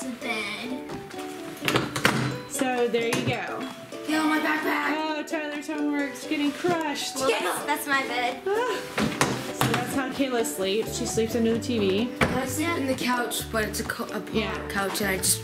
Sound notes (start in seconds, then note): 8.4 laughs